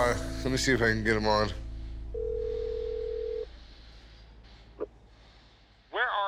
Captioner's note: line ringing